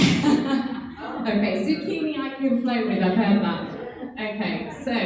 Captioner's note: laughing drowns out speaking